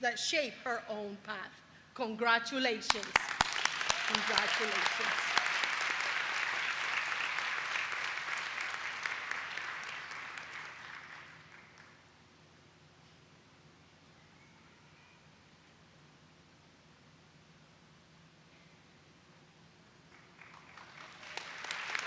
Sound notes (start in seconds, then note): 14.6 applause